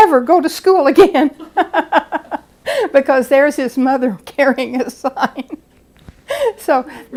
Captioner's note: laughing